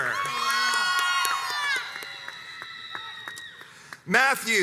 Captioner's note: crowds cheers and applauds